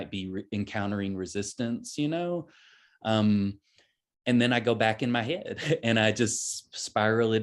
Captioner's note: chuckles